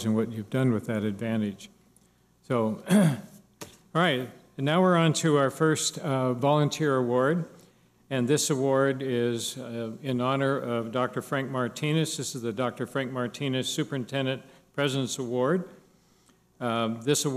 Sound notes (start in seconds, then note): 2.8 clears throat